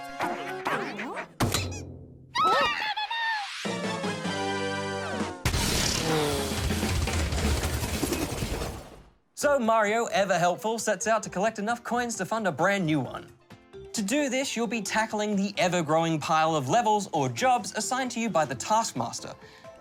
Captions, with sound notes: (CLICK!) (ALL EXCLAIM) So, Mario, ever helpful, sets out to collect enough coins to fund a brand-new one. To do this, you'll be tackling the ever-growing pile of levels, or jobs, assigned to you by the Taskmaster.